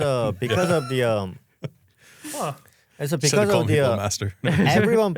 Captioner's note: laughs; laughs